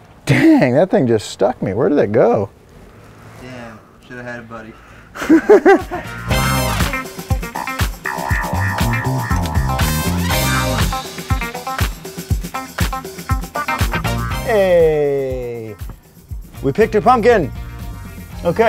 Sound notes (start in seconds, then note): 5.1 laughing; 6.5 upbeat retro music continues